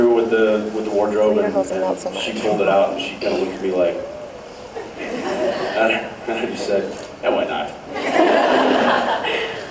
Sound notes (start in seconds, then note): 4.6 laughing; 8.0 laughs